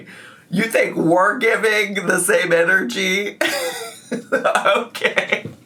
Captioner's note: laughs